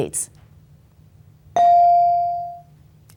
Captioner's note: bell dings